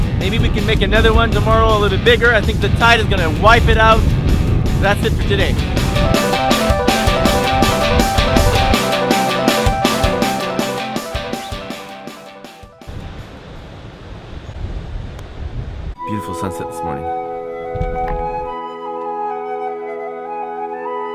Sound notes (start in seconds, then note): 10.9 music fades; 13.0 ocean quietly roaring; 19.3 ethereal music